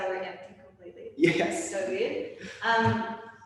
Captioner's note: chuckles